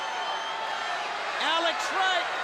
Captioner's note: crowd cheering